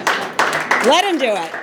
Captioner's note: applause